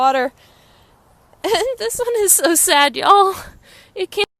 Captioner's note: giggles